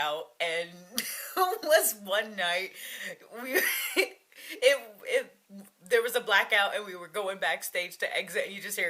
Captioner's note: laughing; laughing